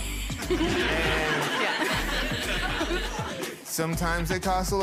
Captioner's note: people laughing